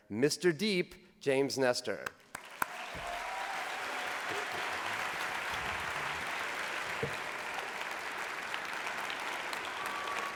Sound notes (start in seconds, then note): 2.2 applause